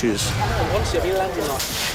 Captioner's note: indistinct chatter